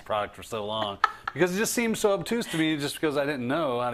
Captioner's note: laugh